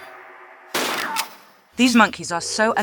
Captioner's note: bam